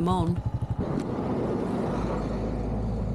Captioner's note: loud truck